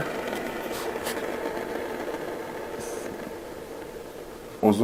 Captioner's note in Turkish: Dönme Sesi